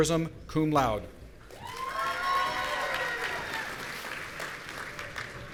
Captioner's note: audience cheering